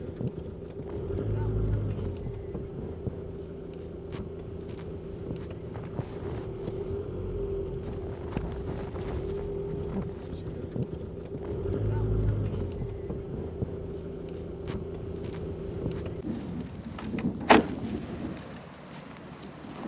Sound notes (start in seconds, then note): 17.4 car door closes